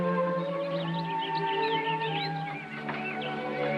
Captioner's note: birds Chirping